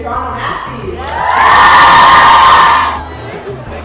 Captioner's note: cheering